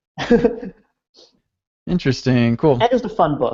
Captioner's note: laughing